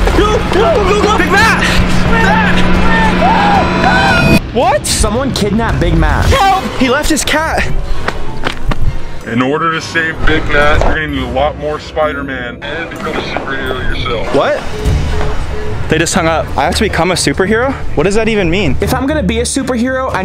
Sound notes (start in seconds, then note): 2.8 screaming